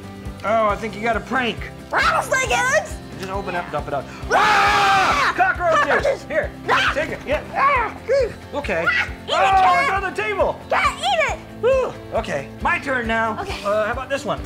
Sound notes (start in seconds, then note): 4.1 exclaiming